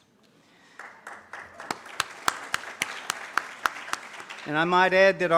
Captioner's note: audience claps